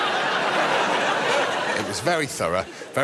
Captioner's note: laughter